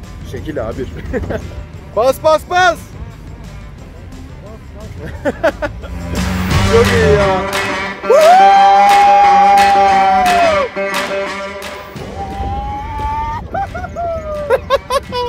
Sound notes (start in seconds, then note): 12.1 timberwolves replying